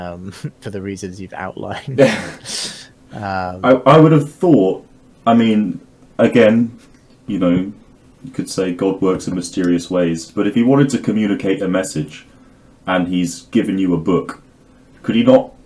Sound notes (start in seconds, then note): 1.6 both chuckle